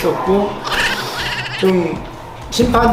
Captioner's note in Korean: ㅋㅋㅋㅋㅋㅋㅋㅋㅋㅋ